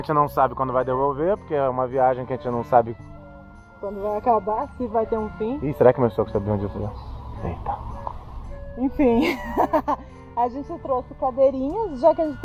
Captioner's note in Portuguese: risadas